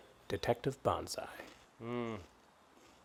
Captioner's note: munches